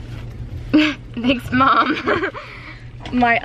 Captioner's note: laughs